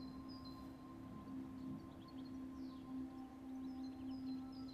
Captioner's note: birds chirping